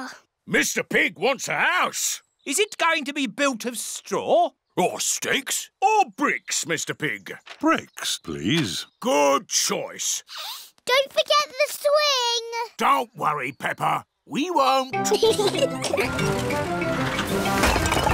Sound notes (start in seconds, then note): 15.0 both giggling